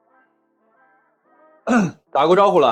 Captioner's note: cough